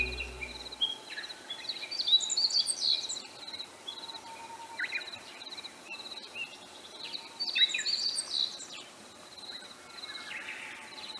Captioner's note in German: Vögel zwitschern